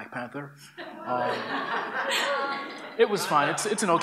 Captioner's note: laughter